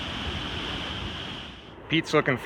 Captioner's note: water rushing